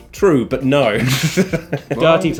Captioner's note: laughing